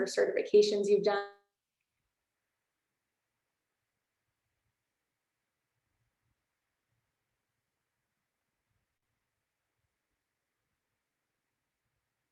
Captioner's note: audio cuts off